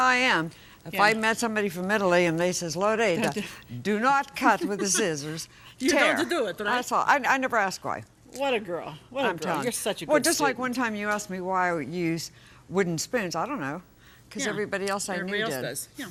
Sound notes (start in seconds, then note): 4.6 laughing